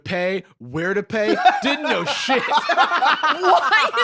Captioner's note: both laughing